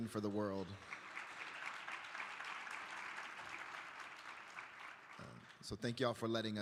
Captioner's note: applause